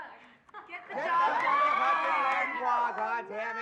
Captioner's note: whooping